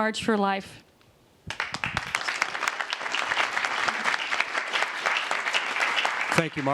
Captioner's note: applause